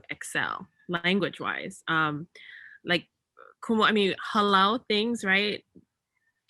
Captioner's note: speaks in native language